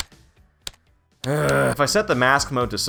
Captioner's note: groan